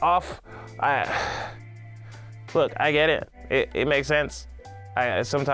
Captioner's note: sighs